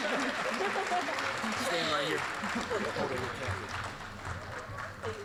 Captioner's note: applause